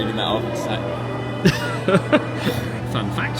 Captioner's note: laughs